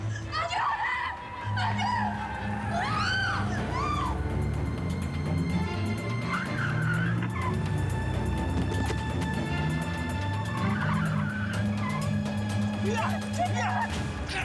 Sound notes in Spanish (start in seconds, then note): 1.4 chirrido de gomas; 3.0 gritos; 6.0 chirrido de gomas